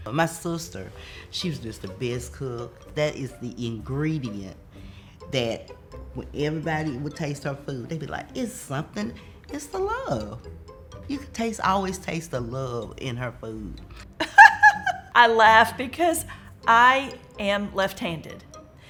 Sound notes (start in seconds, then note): 14.2 softly laughs